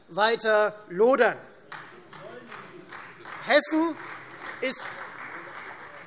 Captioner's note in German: Beifall Freie Demokraten - Zuruf: Das wollen die nicht!